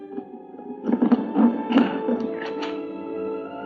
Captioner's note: creaking